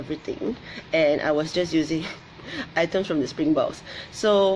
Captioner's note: laughs